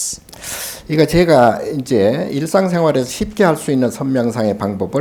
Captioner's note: speaking Korean